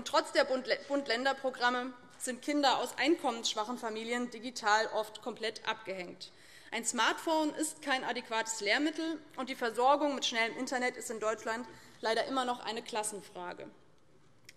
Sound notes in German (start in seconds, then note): none